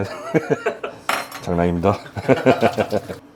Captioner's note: whew